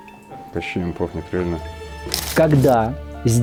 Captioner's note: sarcasm